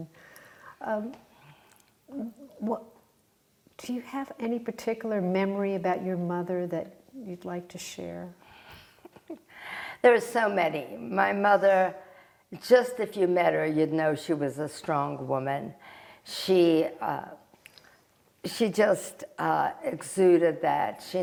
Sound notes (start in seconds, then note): 9.0 laughing